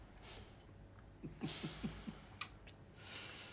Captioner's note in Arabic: ضحكة مكتومة